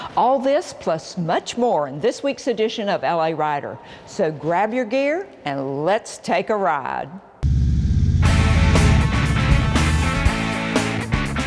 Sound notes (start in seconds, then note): 7.5 motorcycles rumbling; 8.0 energetic music